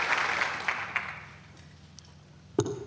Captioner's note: applause